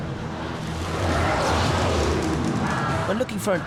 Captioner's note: chanting